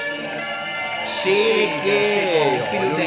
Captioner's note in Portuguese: aplausos